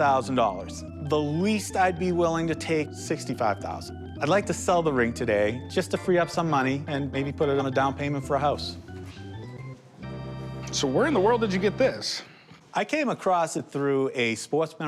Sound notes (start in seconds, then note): none